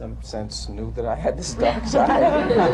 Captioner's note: laughter